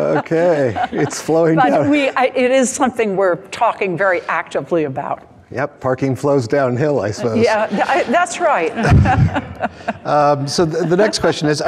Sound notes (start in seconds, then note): 7.5 crowd laughing